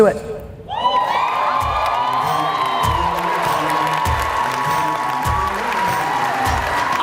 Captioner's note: cheering; upbeat music